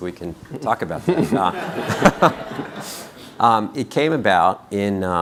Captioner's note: laughing